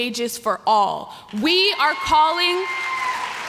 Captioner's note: applause